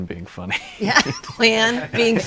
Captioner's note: laughing